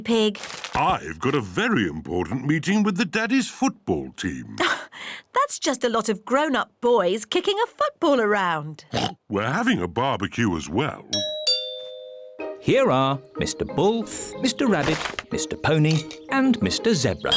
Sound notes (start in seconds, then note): 8.9 oinks; 11.2 doorbell rings